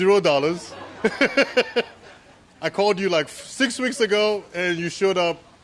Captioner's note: laughter